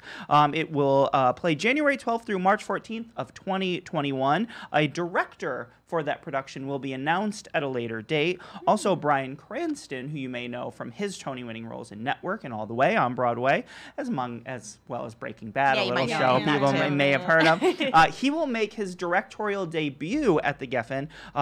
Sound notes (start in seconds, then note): 15.8 laughs